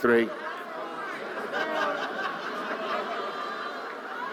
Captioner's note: audience yelling